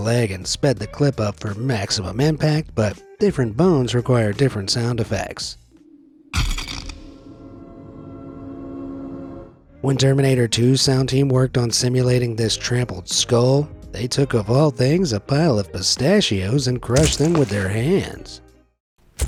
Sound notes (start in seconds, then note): 6.3 skull cracks